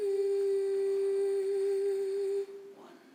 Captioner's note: humming